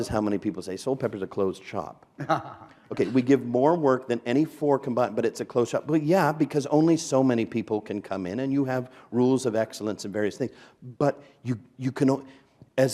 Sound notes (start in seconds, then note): 2.2 chuckle